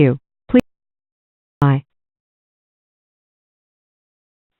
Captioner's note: computer Voice